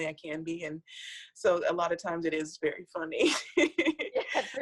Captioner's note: laughs